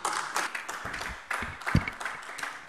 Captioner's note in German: Beifall AfD